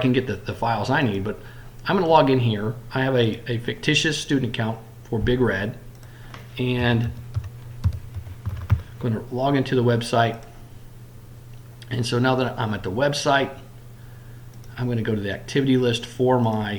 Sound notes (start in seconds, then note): 5.9 click; 7.8 typing